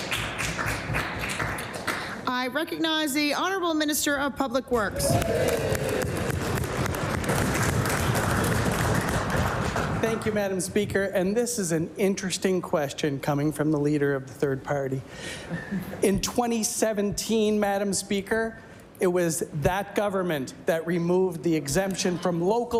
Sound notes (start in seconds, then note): 5.0 some Applause; 10.3 applause